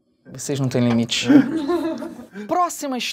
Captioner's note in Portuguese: risadas